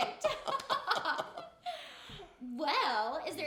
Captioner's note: both laughing